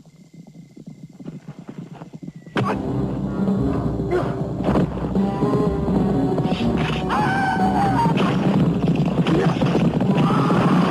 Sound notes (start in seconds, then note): 2.6 dramatic music; 7.5 people shouting